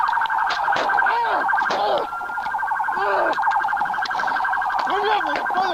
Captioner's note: gunshots; screams, groans